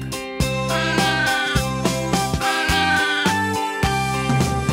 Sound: sheep bleating

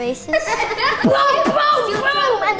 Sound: laughing

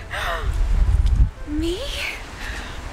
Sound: gasp

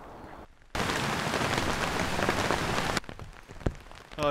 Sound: rain

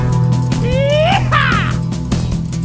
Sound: yeeeeehaw!

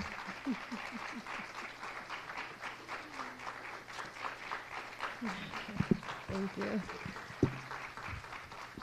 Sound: applause

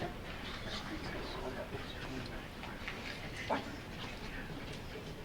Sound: audience murmuring

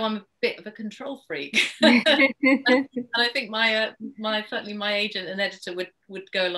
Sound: laughs

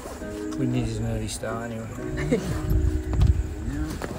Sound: laughing

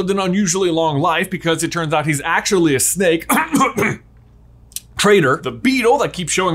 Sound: coughs

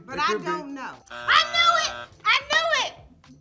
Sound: buzzer rings

